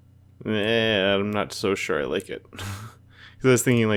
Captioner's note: laughs